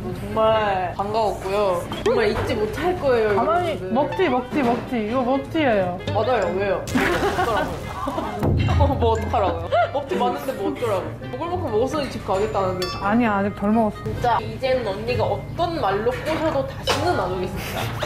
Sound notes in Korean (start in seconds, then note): 6.9 폭발